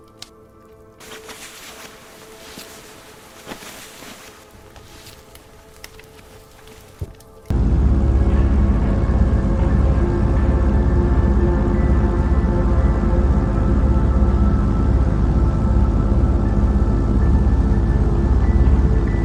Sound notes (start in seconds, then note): 0.9 fabric rustling; 7.7 airplane engine rumbling; 15.8 pensive music intensifies